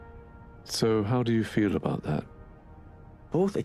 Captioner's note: voiceover